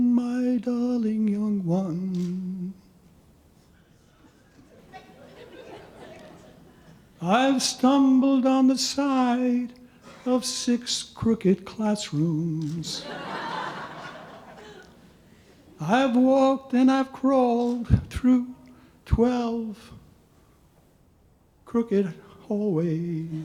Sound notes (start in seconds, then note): 5.4 audience chuckling; 12.9 audience laughing